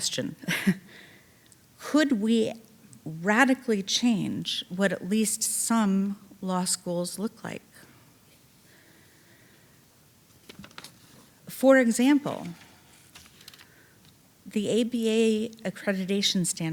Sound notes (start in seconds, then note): 0.4 chuckling